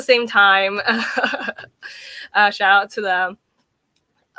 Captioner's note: laughing